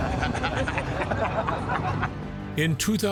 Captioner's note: group laughing